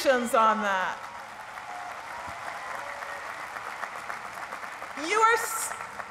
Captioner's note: applause